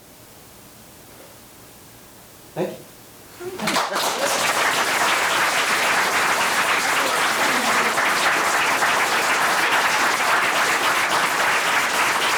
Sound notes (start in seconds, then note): 3.5 members clapping